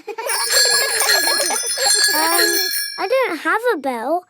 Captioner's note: giggling and ringing bells